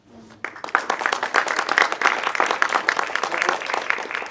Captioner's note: audience clapping